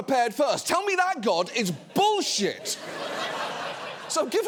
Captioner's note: audience laughing